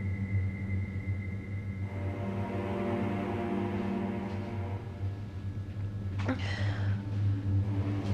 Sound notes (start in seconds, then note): 4.4 Maggie moaning